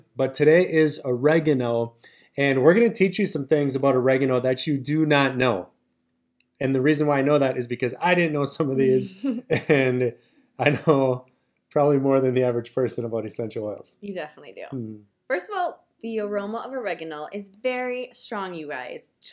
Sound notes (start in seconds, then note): 8.7 both laugh